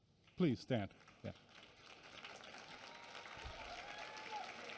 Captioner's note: applause and cheering